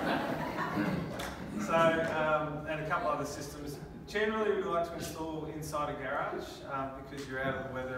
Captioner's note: laughing